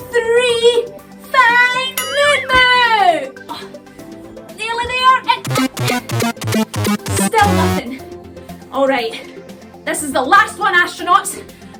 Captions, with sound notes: Three. Find Moon Moo! Nearly there! [ELECTRONIC WARBLE] Still nothing. Alright. This is the last one, astronauts.